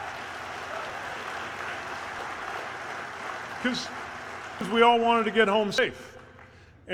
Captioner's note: applause